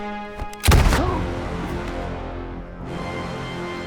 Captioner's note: gunfire echoing